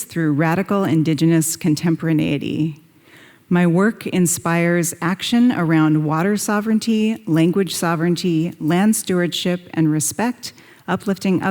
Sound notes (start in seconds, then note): none